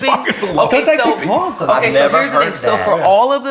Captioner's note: laughs